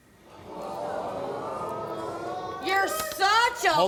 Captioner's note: crowd